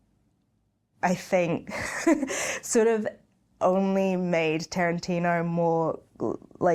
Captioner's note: laughing